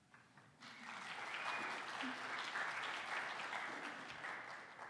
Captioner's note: audience clapping